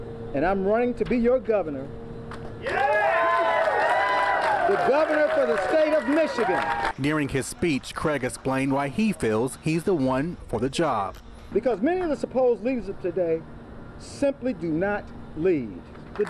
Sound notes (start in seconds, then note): 5.6 cheers and applause